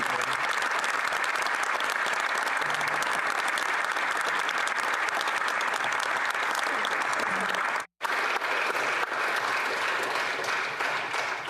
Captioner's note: applause